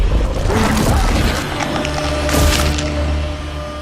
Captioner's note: Shin Godzilla chomps down on Godzilla